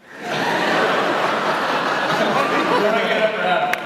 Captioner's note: laughter